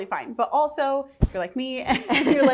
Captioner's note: laughing